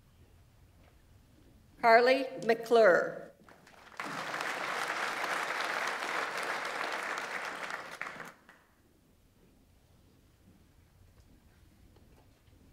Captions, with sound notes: Karli McClure. (audience applauds)